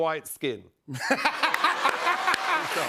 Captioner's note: laughter